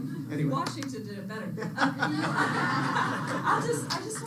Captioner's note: laughter